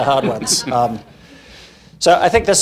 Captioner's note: laughing